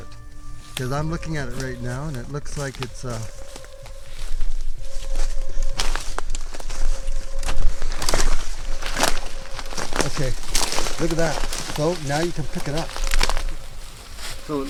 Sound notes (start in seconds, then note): 5.9 twigs snapping